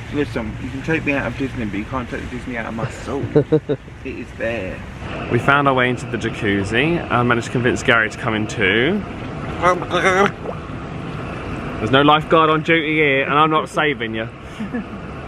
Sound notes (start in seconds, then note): 2.8 laughing; 9.8 gurgles; 14.5 laughs